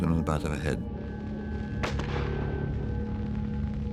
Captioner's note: gunshot